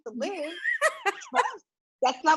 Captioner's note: laughs